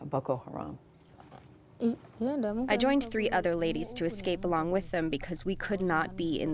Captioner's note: through translator